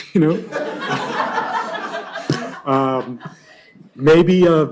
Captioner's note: laughter